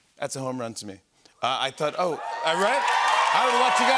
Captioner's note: cheers and applause